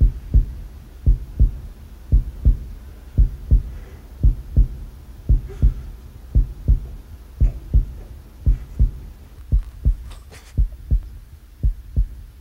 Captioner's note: A sound of hoof beats is heard, and increases